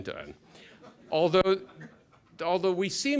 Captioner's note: laughter